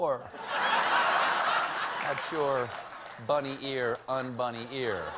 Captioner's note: laughter